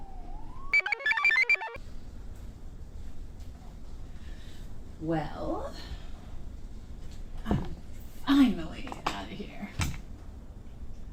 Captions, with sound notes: (computer chirps) - Well, I'm finally outta here.